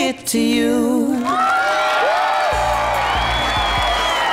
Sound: audience cheering

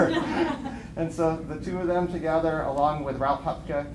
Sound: laughter

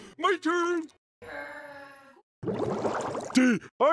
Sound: groan

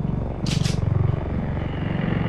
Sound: gun Cocks

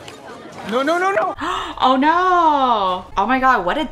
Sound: gasps

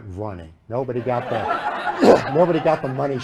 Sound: laughter

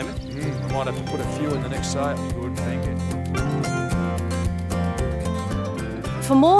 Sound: voices fade into background

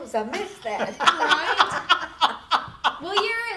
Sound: group laughing

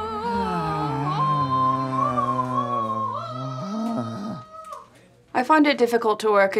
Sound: vocalizing; prolonged groaning

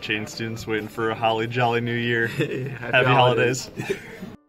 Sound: laughter

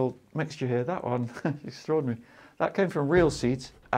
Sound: chuckles

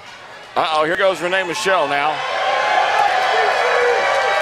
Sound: crowd cheers

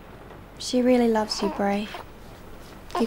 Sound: Brady coos

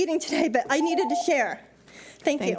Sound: timer beeps

